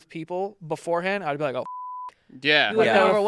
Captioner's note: beep